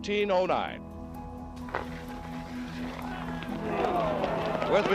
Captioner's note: crowd cheers and applauds